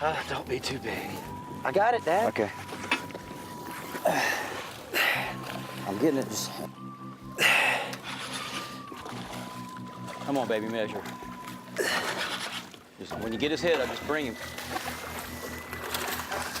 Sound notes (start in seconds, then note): 3.9 grunting; 7.4 breathing heavily